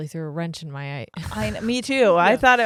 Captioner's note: chuckle